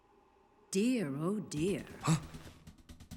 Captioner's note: gasps